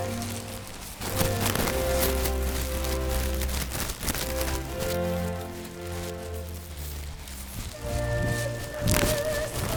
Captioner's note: rustling walking; frantic rustling running